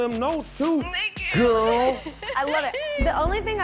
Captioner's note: chuckling